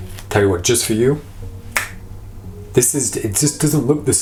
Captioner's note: snaps fingers